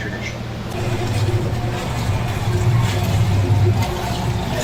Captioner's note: sound OF Mixer